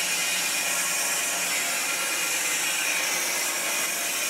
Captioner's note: saw whirring